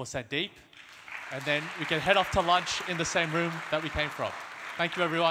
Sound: audience applause

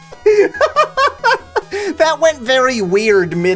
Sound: laughs

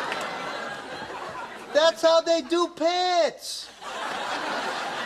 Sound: laughs

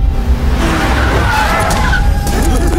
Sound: brakes squeak

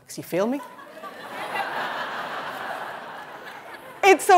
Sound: laughter

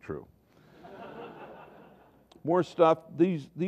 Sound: laughter

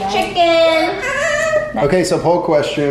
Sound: yells

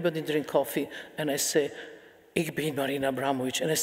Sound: speaking in foreign language

